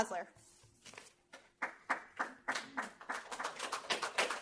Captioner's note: applause